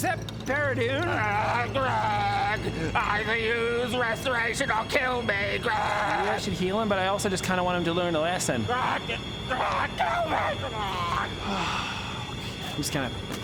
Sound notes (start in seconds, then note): 11.4 inconvenient sigh